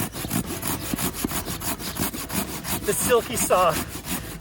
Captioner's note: blade scraping